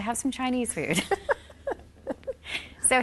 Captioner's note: both laughing